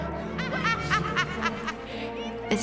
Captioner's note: bellatrix cackles